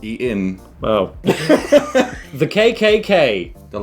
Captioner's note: laughing